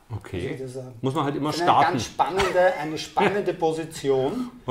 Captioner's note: laughs